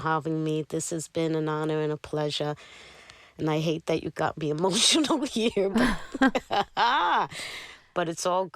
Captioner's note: laughter